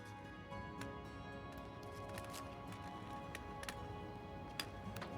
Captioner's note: cane across the ground